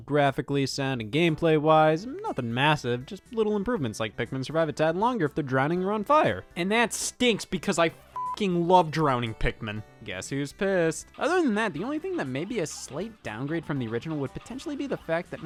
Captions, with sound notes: graphically sound and gameplay wise, nothin' massive. Just little improvements. Like Pikmin survive a tad longer if they're drowning you're on fire. And that stinks because I (beep) love drowning Pikmin. Guess who's pissed? Other than that the only thing that may be a slight downgrade from the original would potentially be the fact